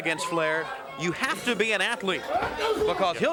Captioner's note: wrestlers grunting